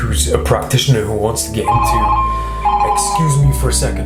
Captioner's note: phone ringing